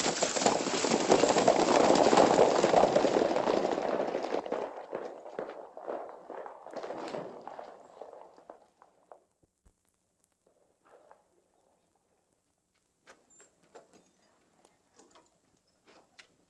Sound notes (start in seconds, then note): 0.7 horses trotting